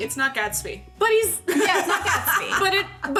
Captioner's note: laughing